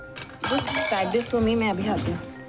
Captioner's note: Tiffin boxes clinking